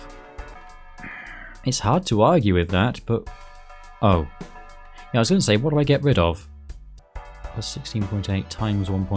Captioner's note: sigh